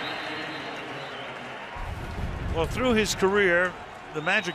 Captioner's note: whistle; pa announcement